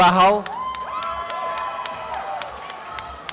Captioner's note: applause and cheering